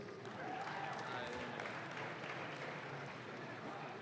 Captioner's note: audience claps